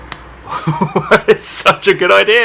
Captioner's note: laughs